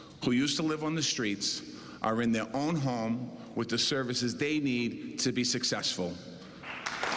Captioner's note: cheers and applause